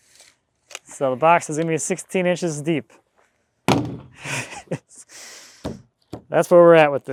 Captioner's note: chuckles